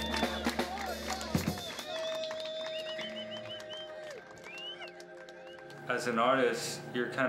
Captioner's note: people are cheering and applauding and whistling